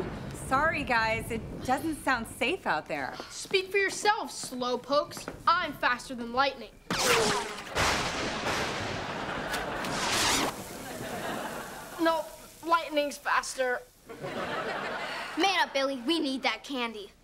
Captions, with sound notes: Sorry, guys. It doesn't sound safe out there. Speak for yourself, slowpokes. I'm faster than lightning. [thundering] No, lightning's faster. Man up, Billy, we need that candy.